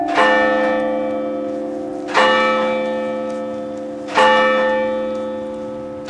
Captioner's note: chapel bell rings to signify time